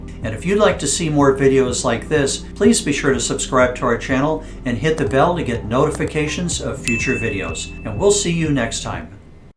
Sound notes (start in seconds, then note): 6.8 bell dings